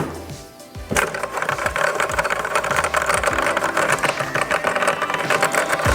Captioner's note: computer keyboard clucking